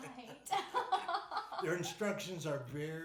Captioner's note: laughing